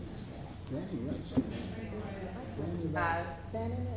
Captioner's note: chattering from crowd and stage